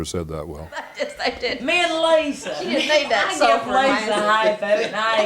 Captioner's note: laughter